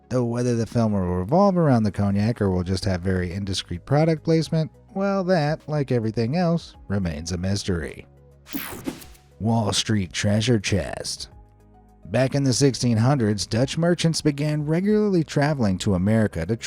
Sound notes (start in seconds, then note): 8.5 air whooshing; 8.5 soft upbeat music; 11.2 soft upbeat music